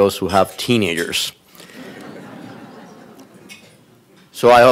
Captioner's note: audience laughing